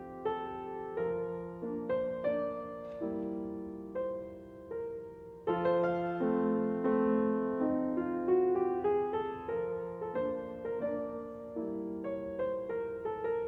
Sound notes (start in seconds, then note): none